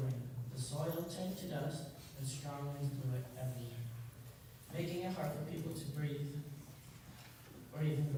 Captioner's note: none